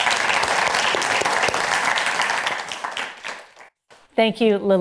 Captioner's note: applause